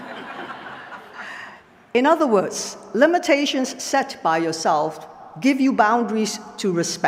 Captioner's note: laughter